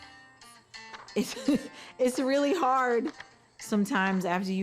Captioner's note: laughs